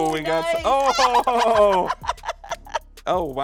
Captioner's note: both laughing